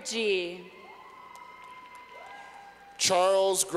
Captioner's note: clapping